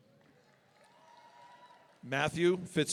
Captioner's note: audience cheering